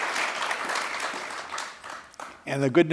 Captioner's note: applause